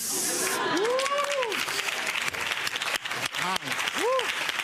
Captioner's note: audience laughing and applauding